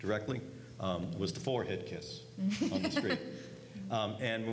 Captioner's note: laughs